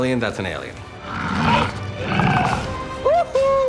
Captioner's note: alien roaring